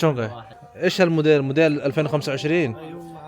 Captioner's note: Arabic